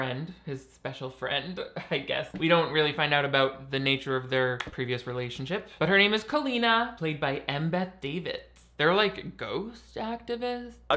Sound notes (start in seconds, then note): none